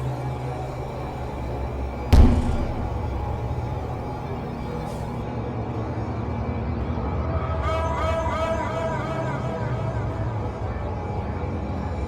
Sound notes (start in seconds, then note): 2.1 bang